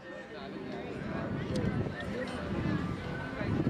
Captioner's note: indistinct chats